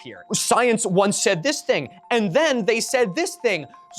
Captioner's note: mocking tone